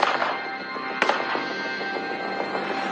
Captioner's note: gunshots